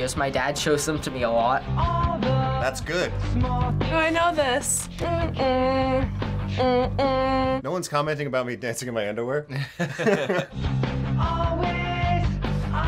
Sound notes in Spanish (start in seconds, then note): 5.9 tarareando; 9.5 ambos se ríen